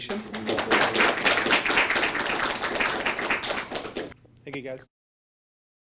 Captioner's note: applause